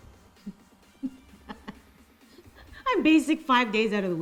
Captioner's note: laughs loudly